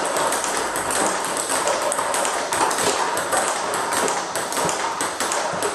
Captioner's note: ball ping pong hitting continues